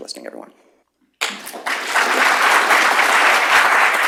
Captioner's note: applause